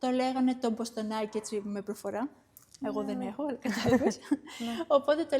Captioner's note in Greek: γέλια